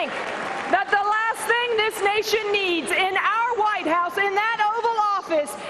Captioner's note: cheering and applause